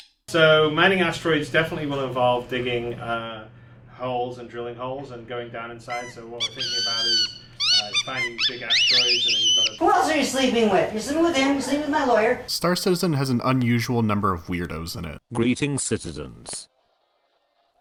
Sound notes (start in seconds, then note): 0.0 high-pithed squeaking; 5.9 high-pitched squeaking intensifies